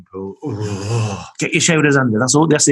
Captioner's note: shivering